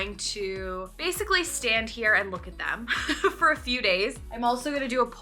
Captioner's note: laughs